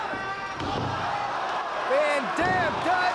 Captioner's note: spectators exclaiming